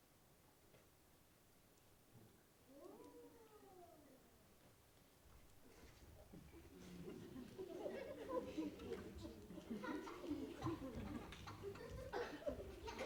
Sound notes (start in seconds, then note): 6.6 audience chuckling